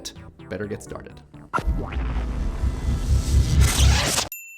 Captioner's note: explosion